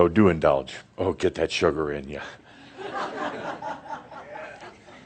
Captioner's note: some chuckles